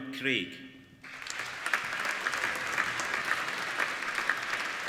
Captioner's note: applauding